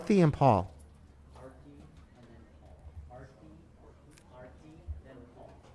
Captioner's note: faintly speaking